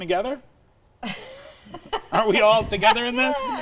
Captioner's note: laughter